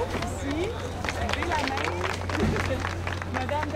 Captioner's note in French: applaudissements